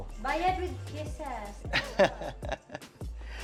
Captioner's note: laughs